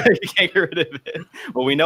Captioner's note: laughs